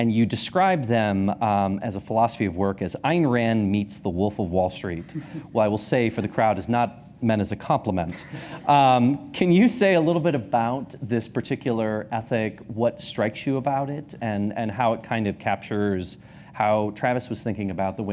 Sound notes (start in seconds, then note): 4.9 chuckles; 8.5 audience laughs